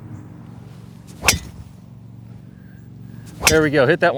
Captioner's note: golf strike